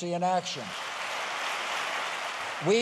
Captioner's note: applause